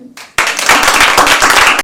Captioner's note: applause